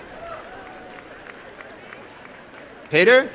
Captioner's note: applause and cheering